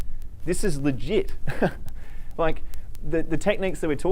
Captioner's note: laughs